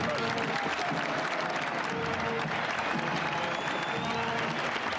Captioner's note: crowd cheering and applauding